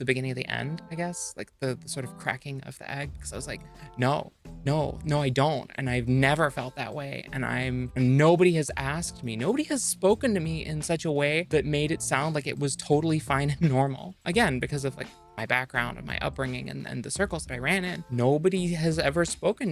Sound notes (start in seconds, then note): none